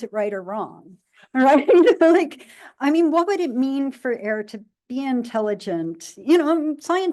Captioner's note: laughs